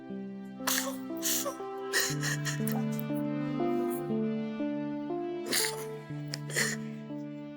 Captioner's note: crying